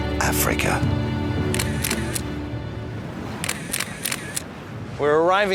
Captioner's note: camera shutter clicking